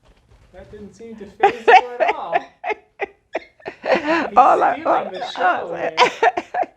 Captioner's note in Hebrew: צחוק